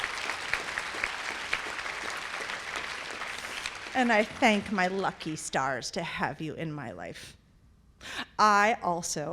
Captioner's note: applause